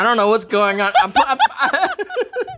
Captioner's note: all laughing